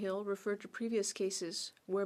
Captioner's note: speaking French